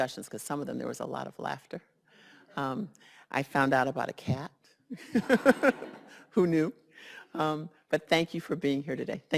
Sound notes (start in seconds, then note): 4.9 laughs